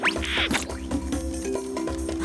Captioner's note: splat